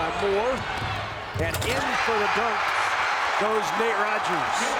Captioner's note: crowd cheers